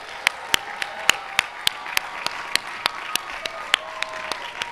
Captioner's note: applause